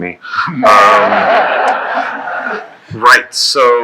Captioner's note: laughing